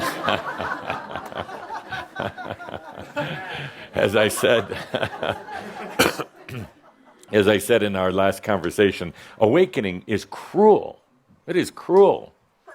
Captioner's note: laughter